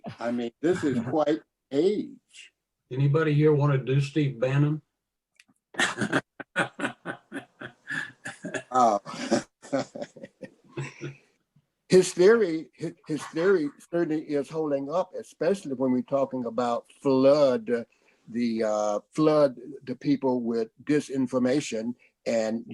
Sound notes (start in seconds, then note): 5.7 laughter